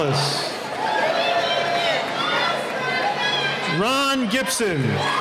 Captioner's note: cheering